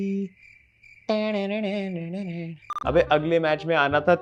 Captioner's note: immitating music